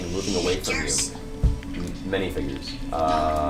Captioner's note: whispers